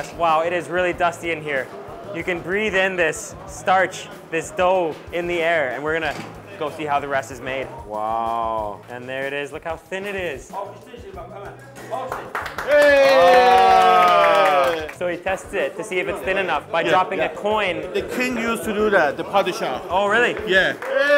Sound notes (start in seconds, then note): 11.0 speaking foreign language; 12.6 everyone cheers; 19.3 speaking foreign language